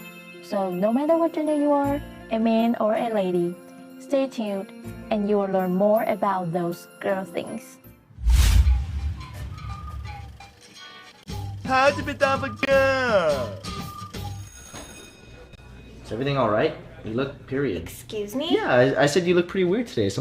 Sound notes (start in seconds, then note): 14.4 class bell rings